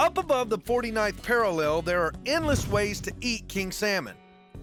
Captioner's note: none